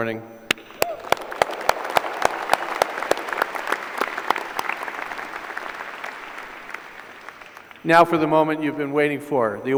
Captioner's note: applause